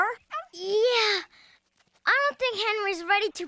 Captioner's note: gasping